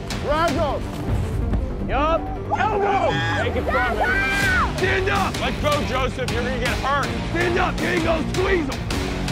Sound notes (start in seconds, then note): 3.7 screaming